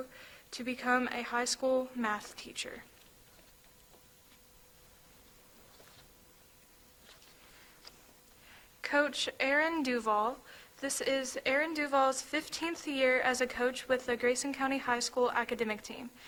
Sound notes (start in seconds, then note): none